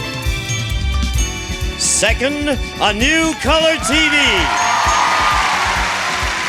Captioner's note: audience cheering